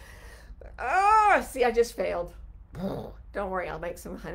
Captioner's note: groans